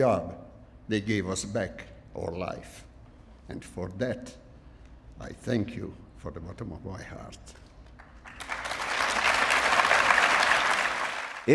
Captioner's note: applause